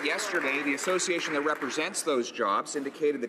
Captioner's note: some Applause